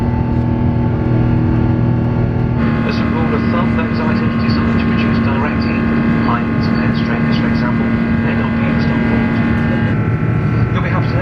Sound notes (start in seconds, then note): 3.2 flight service manager speaking over PA